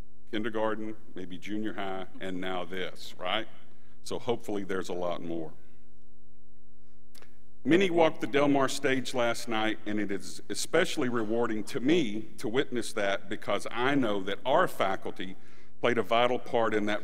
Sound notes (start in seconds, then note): none